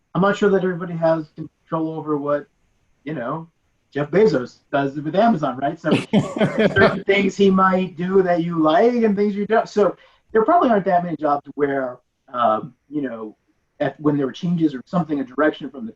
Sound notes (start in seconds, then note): 5.2 laughing